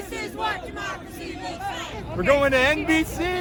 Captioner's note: crowd cheering